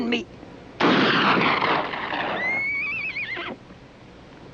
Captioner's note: gunshot echoing; horse neighing